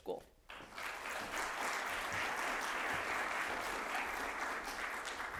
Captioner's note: audience applauding